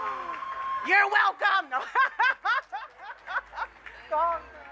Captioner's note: laughs